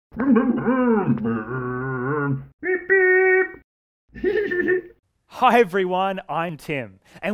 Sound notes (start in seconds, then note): 0.3 Scruff makes scooter noises; 4.1 Scruff laughs